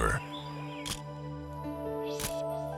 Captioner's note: camera shutter click